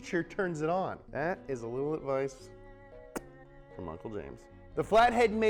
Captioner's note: sucking noise